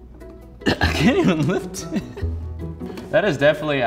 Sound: laughs

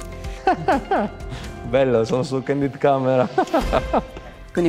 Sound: laughs

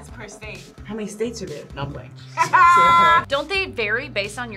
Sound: laughs

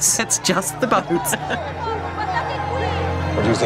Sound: crowd cheering and screaming; laughs

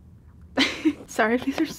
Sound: laughing

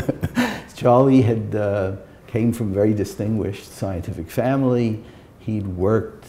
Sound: chuckle

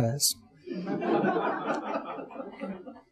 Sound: audience chuckling

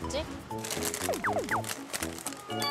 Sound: rummage

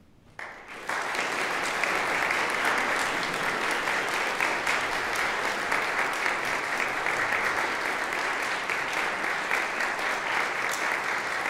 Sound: applause

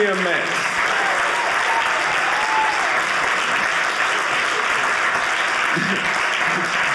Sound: audience applauding

